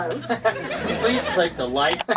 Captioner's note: laughing